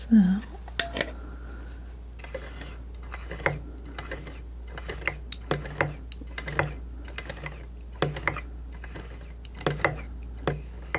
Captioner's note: scratching